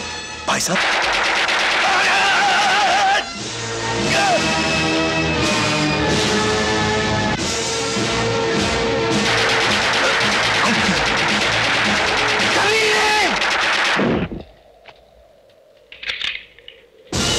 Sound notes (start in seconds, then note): 0.7 gunfire; 15.8 empty gun clicks